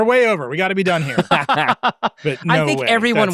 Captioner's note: laughing